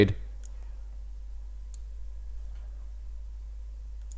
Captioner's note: mouse clicks